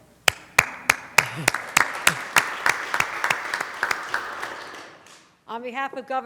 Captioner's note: applause